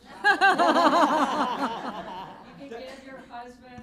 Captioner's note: laughter